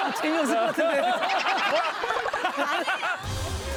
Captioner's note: laughing